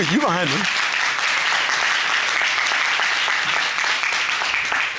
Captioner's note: audience applauding